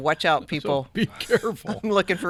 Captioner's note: chuckling